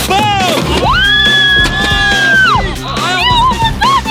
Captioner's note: screaming